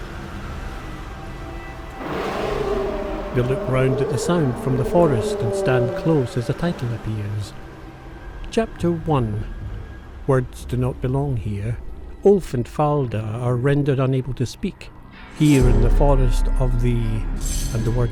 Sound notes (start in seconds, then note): 1.9 sound of a roar